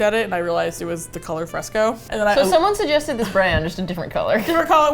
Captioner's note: laughs